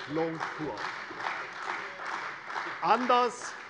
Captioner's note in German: Beifall bei der CDU